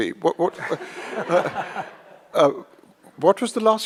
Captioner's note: audience laughs